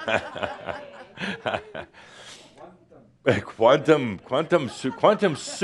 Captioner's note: laughter and someone says “Quantum”